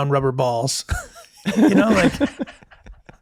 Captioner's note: laughing